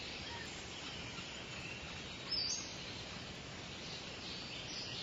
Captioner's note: birds cawing and chirping